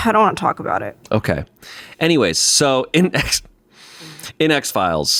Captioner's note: laughs